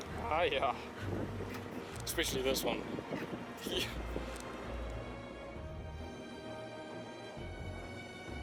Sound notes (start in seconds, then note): 0.0 speaking foreign language; 3.0 laughs; 4.4 dramatic music